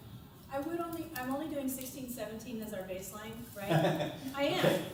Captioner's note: laughter